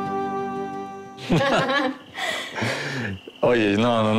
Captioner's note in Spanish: Risas